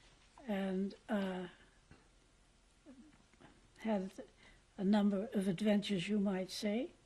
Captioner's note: pauses for 3 seconds